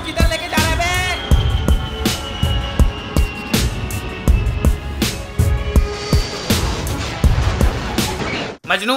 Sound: plane Sound

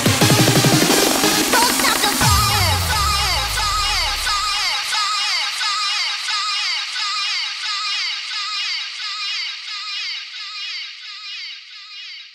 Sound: echo

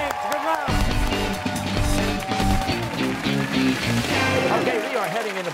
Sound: cheers and applause

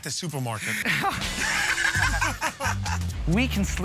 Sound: laughs

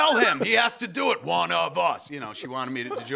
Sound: laughs

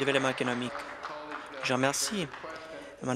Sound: applause

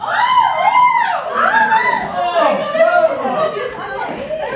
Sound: shouting happily

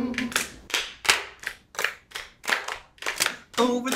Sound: clapping continues

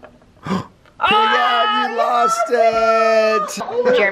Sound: gasps

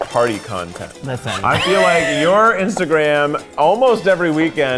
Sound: laughing

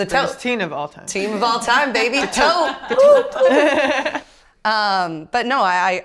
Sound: chuckles

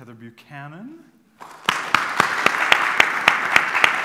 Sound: applause

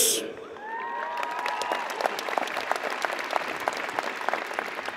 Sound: audience applauds

